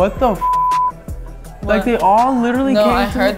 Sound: beep

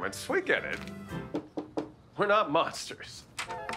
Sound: knocking

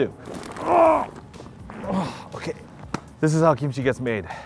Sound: grunting

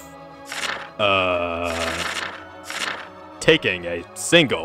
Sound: pages turning

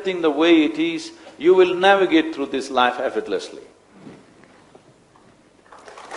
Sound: applause

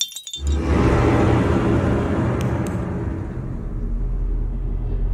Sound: light Bulbs break; followed by a loud noise

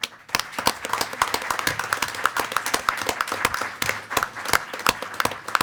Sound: board members and attendees applaud

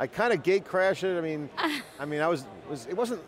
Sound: laughs

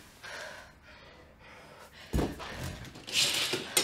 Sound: breathing heavily

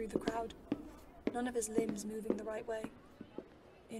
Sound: footsteps

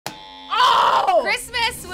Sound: buzzer ringing

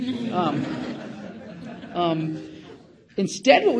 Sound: audience laughing

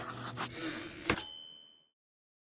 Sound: typewriter ding

